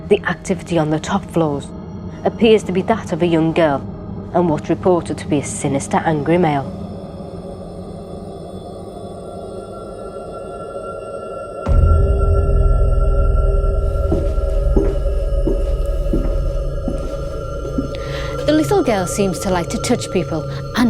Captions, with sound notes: The activity on the top floors appears to be that of a young girl, and what's reported to be a sinister, angry male. (door slamming) (soft footsteps) The little girl seems to like to touch people